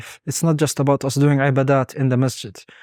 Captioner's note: speaking Arabic